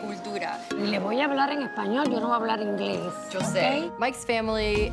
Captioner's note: speaks Spanish